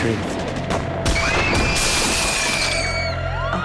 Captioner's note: girls scream